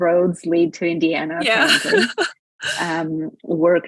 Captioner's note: laughs